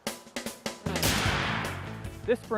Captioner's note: gunshot